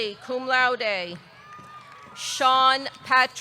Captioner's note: audience cheering